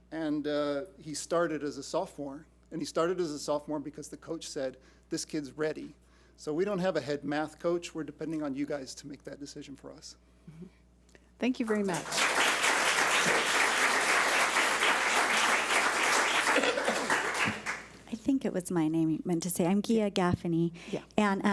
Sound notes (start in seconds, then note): 11.7 public applauding